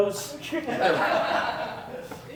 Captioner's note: laughter